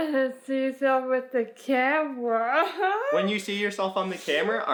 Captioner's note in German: lacht